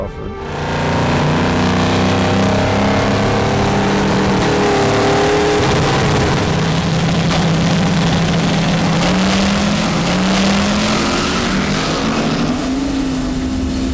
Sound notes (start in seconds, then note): 9.0 car engine revving